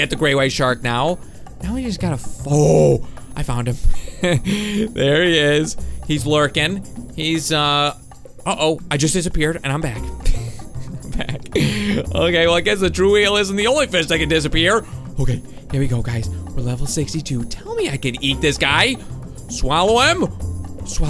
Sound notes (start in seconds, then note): 10.2 laughing